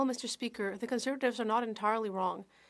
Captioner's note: speaking French